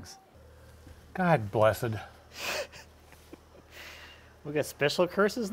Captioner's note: laughing